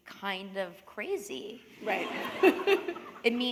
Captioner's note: laughter